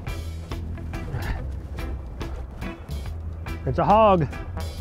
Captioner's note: grunts